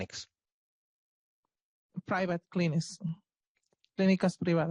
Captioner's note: speaking Spanish